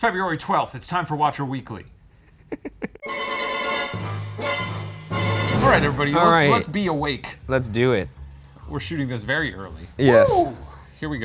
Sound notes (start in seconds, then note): 2.2 laughs; 3.1 dramatic music